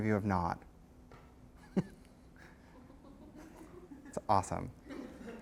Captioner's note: laughter